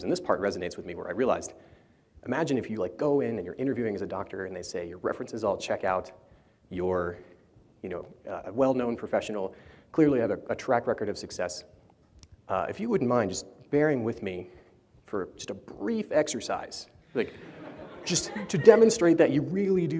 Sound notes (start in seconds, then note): 17.2 laughter